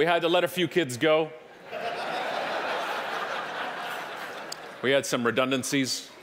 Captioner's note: audience laughing